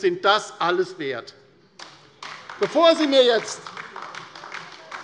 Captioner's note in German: Beifall bei der LINKEN - Zurufe von der CDU: Oh!